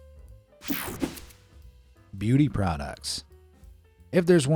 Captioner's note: air fizzing